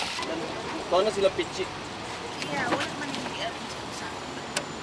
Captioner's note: speaking in foreign language